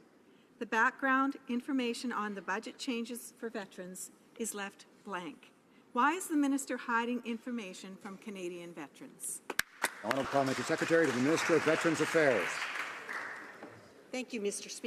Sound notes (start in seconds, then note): 12.4 some Applause